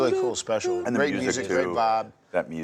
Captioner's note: Jeff imitating music